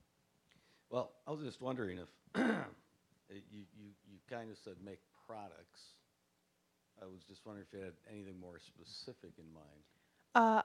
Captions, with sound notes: >> WELL, I WAS JUST WONDERING IF-- (clearing throat) YOU KINDA SAID, "MAKE PRODUCTS." I WAS JUST WONDERING IF YOU HAD ANYTHING MORE SPECIFIC IN MIND?